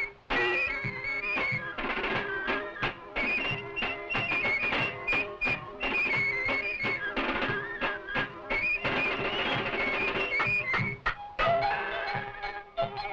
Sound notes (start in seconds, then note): 11.3 dinging